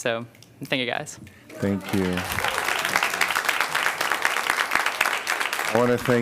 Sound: applause

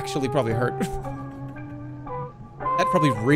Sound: chuckles

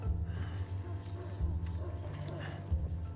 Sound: distant dogs barking; panting

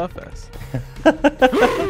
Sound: laughing

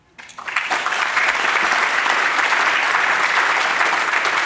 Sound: audience applauding

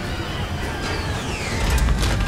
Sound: plane shaking; engine roaring; thuds

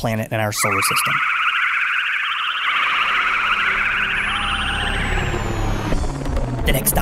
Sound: spaceship flying sounds

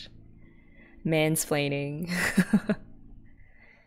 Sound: laughs

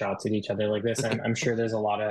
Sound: host chuckling

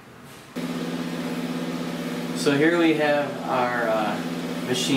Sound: machine whirring

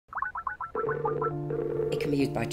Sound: Skype dialling tone

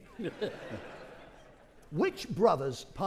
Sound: audience laughing

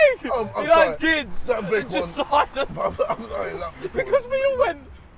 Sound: group chatter

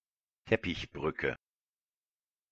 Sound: fast Pronunciation

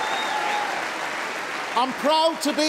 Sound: cheering & Applause

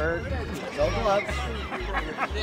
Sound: laughing

